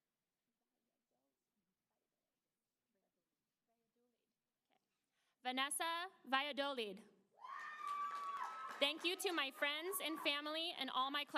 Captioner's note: applause